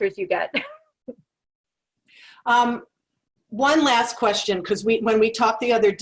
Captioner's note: laugh